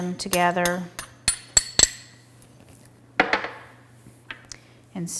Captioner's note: ingredients mixing